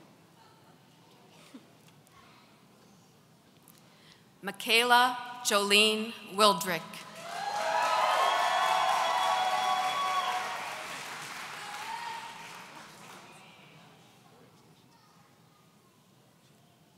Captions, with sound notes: McKayla Jolene Wildrick. (audience cheering)